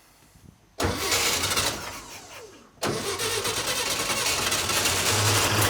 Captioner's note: engine revs and starts